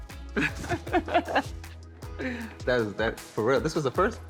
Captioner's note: laughs